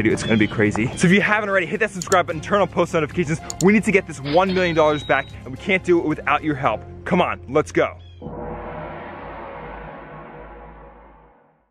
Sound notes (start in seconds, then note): 8.2 gong banging